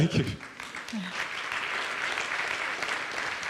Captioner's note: chuckles; audience applauds